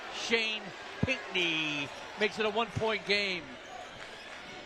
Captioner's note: applause